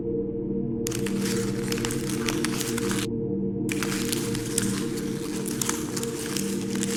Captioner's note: gentle music continues; legs rustling and rasping